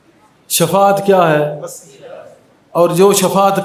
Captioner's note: crowd